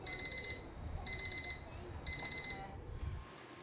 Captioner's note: beeping alarm